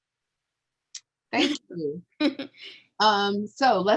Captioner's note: chuckles